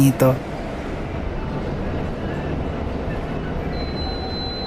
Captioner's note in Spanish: sonido de timbre del bus